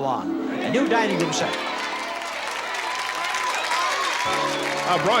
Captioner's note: audience cheering